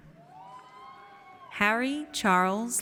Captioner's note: audience cheers